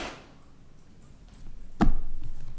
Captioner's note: hits table